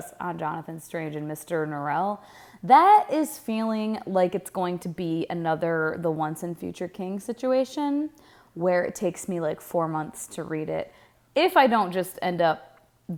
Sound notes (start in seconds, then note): none